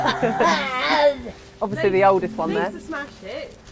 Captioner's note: laughs